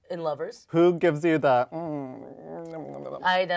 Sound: lips smacking

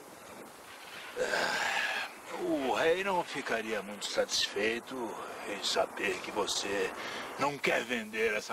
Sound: grunts annoyed

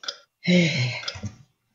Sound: sigh

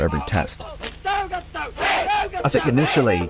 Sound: chanting in foreign language

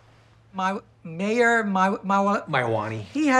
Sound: stammering

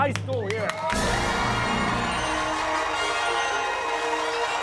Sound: cheers and applause

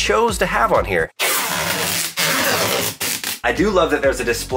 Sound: film rasping

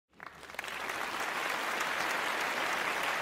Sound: applause

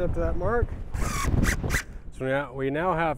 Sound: drill whirring

